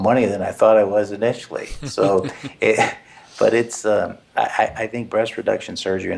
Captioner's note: laugh